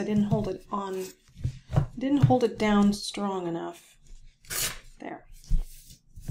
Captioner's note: paper ripping